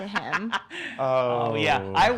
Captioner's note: laughing